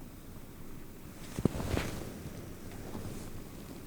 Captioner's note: wind blowing